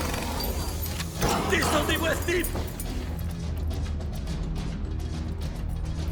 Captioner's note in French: tirs d'armes à feu; homme de main criant en langue étrangère; la musique à suspense continue